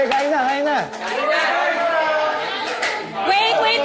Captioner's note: everyone cheering